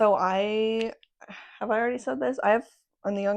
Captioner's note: sigh